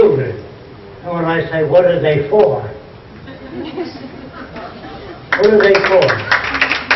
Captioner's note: applause